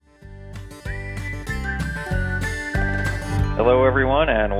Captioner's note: folksy music; whistling